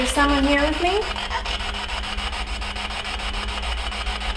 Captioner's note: static buzzing